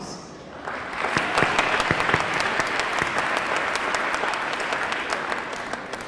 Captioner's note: audience clapping; audience cheering